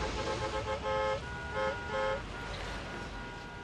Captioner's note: horns